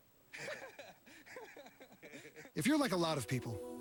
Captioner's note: laughter